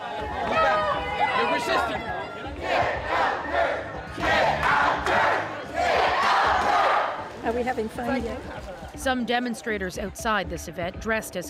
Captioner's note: chanting